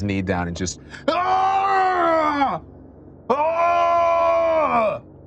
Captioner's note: screams in pain